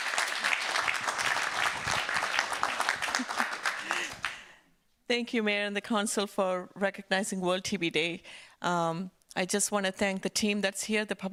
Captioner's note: applause